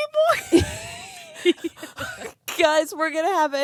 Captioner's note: girls laughing